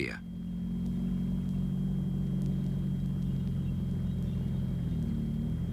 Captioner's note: engines rumbling